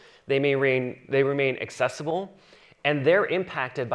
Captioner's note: none